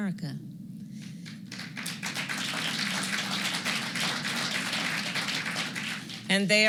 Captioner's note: applause